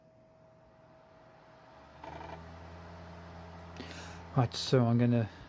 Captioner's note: laptop dvd drive spinning; laptop floppy drive sound